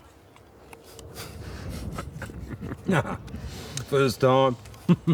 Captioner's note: laughing